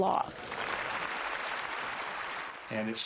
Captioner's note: applause